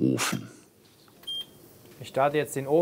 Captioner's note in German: Piepen